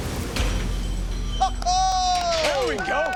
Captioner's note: all cheering